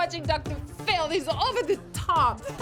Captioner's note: sobs